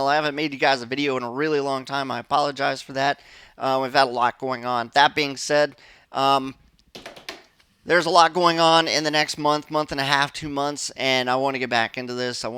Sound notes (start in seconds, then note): 6.9 drums on desk